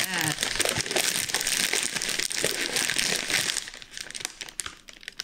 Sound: loud crinkling

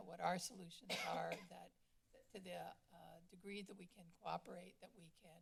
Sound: cough

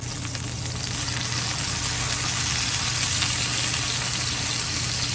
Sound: sizzling sounds 😚

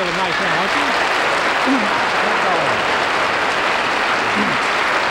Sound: applause

